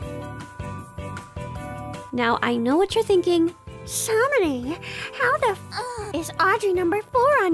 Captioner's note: moan